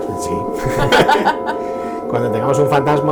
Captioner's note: chuckles